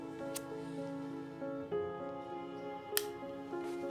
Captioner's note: lighter clicks